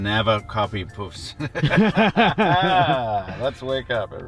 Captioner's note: laughing